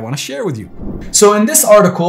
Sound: whooshing

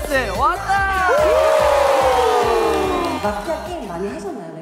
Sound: scream

